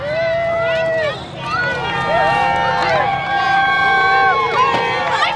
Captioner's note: cheering crowd